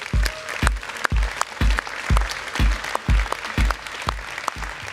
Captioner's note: applause; music crescendoes